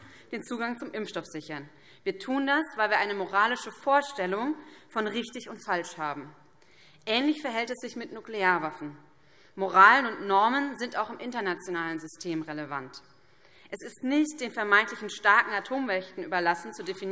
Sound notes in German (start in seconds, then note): none